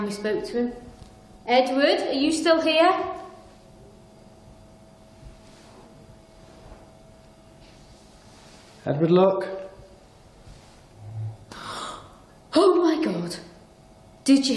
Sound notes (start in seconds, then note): 11.0 gasps